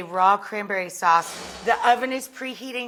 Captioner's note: air whooshes